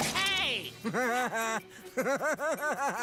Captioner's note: Chris Chuckling